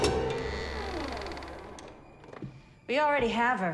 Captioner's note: door creaks